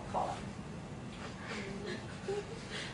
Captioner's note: class laughing